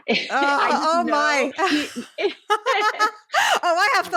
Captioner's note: laughing